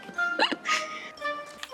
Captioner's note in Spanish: ríe